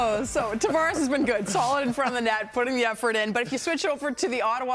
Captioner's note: laughter